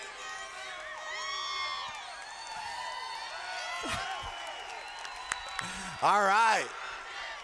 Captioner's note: cheers